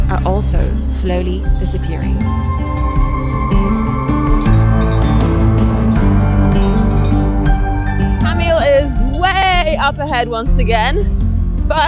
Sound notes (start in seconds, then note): 3.0 gentle music continues; 3.0 sheep bells clanging